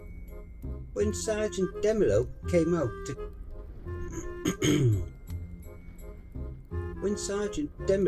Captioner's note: cough